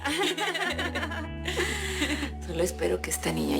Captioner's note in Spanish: Risas